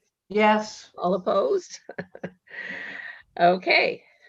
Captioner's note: laughs